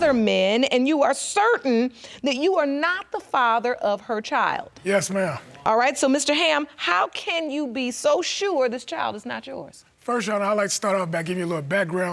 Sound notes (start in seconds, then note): none